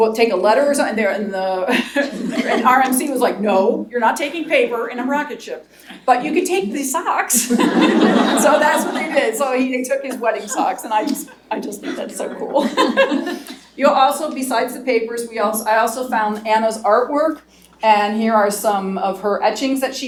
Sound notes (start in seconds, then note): 7.4 laughter; 11.8 laughs